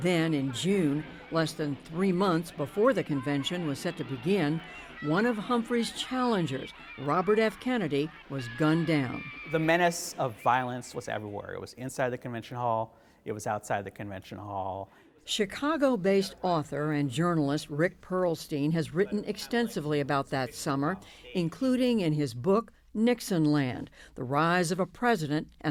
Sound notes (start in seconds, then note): 15.9 voice-over